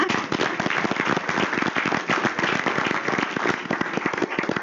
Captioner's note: attendees clapping